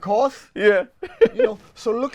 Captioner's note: laughs; chuckles